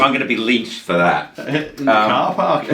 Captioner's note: laughs